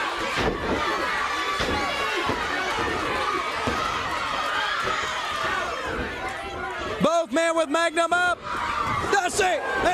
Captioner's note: crowd cheering